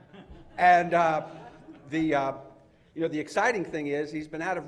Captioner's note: laughter